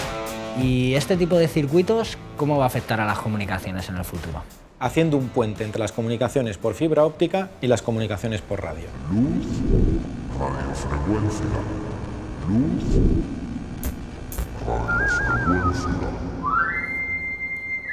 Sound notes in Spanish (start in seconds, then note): 8.7 Voz en off